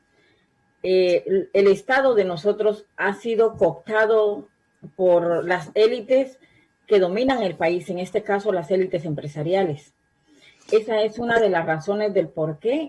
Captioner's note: spanish